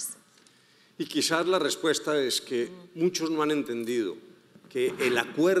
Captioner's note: speaking in foreign language